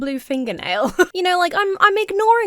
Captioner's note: chuckles